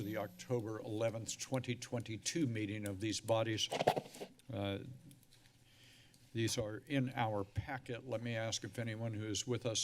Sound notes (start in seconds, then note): 3.7 scratch sounds; 5.6 sigh